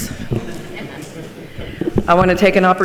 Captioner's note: participants laugh